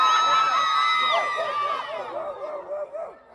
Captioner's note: audience cheers; audience barks